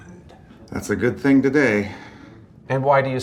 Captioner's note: none